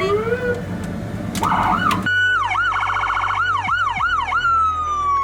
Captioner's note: sirens